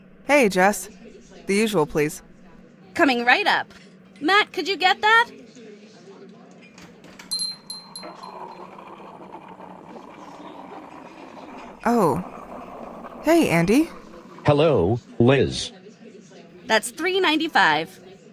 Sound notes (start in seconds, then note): 6.7 shop door opens and shuts; 9.0 milk frother sound